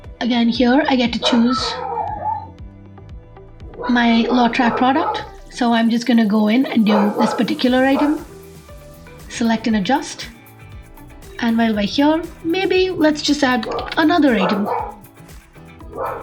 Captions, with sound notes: Again here I get to choose [Dog barking in the background] my lot-tracked product. So I'm just going to go in and do this particular item select and adjust. And while we're here maybe let's just add another item.